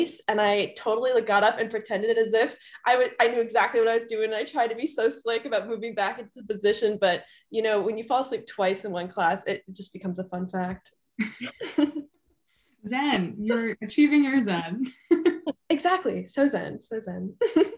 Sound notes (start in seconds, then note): 11.2 group laughing; 14.9 chuckles; 15.0 group laughing